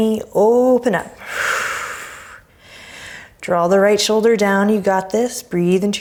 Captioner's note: deep breaths